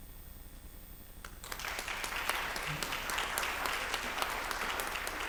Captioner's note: applause